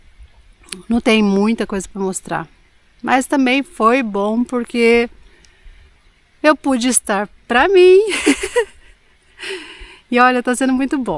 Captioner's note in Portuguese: risadas